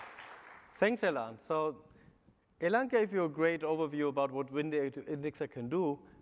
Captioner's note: applause